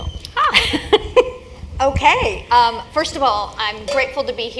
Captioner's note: laugh